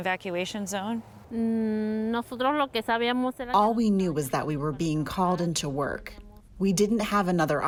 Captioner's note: through translator